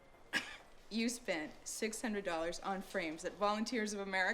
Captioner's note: scoffs